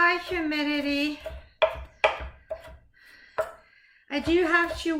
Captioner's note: knife chopping